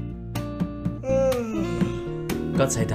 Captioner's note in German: Gähnen